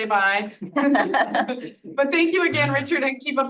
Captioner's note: audience laughs